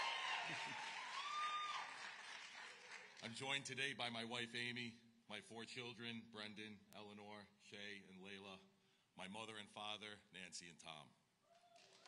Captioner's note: cheers